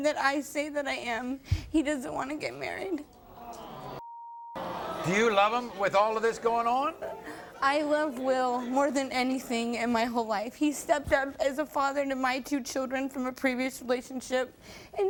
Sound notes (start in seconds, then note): 4.0 beep; 4.5 crowd gasping